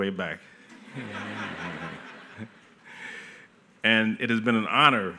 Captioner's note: laughter